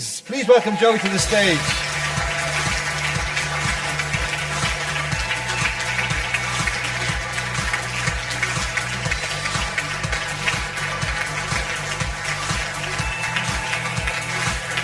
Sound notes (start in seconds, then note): 2.5 audience applause; 2.5 upbeat music